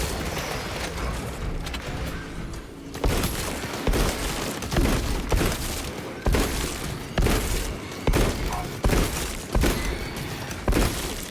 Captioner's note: gunfire